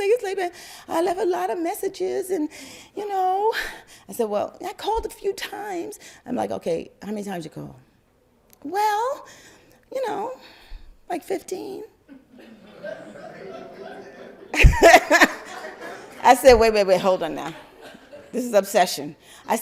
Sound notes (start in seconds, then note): 12.1 crowd laugther